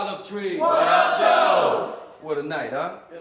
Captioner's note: crowd